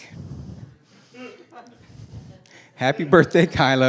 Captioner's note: laughing